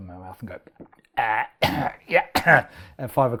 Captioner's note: coughs